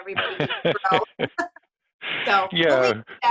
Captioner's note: laughs